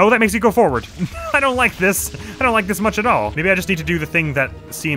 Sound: laughing

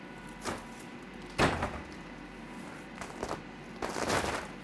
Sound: materials rattling

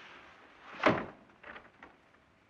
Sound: door closes

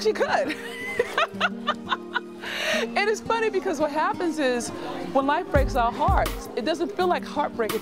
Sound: laughs

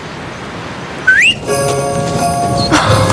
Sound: husband whistles

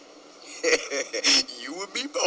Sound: laughing

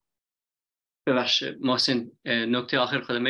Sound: speaks in Dari

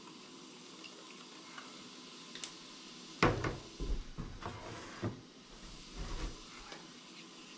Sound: water running

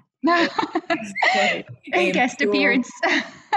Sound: laughs

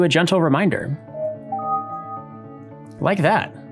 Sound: computer chimes

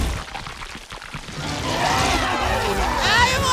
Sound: screaming

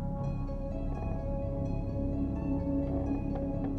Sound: floorboards creak

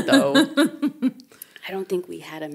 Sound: chuckling

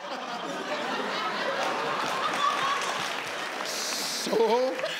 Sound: audience laugh

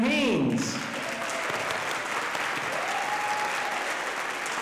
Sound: audience applauding

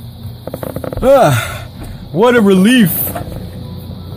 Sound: sigh

